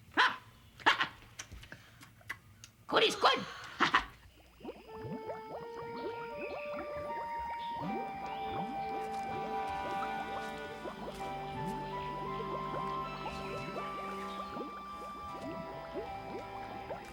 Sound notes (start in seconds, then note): 1.9 lips smacking; 5.4 soft music; 6.4 bog bubbling; 10.8 leaves rustle